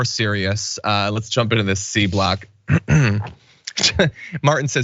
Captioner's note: cough